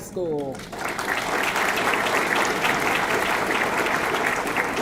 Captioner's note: audience clapping